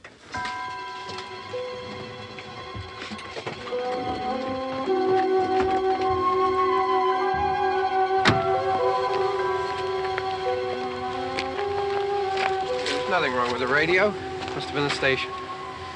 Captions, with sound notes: [ EERIE MUSIC ] [ CAR DOOR SLAMS ] There's nothing wrong with the radio. Must've been the station.